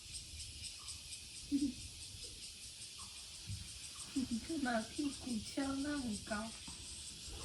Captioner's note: laughs